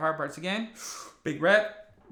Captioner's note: inhales